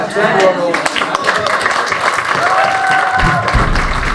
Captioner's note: clapping